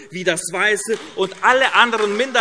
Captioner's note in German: Beifall AfD